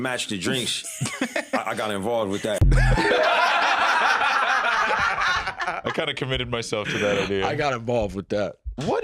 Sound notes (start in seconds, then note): 2.3 all laughing